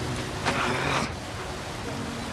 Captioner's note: groans softly